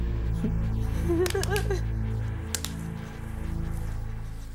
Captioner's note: whimpering